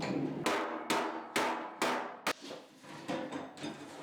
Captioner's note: hammer banging